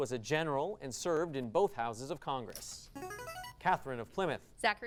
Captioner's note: buzzing sound; ding